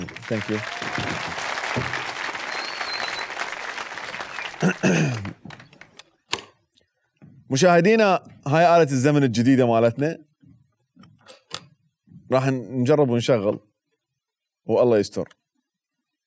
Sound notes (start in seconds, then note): 4.6 clears throat